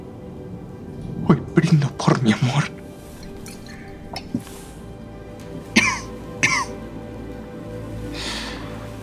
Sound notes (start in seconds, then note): 4.0 drinking; 5.6 coughing